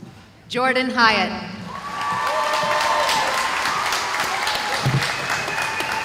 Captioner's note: cheering